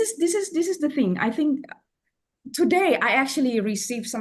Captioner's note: none